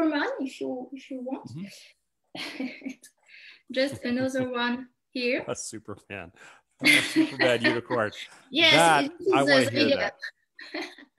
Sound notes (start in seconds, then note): 1.1 chuckles